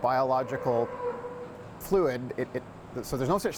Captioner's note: mooing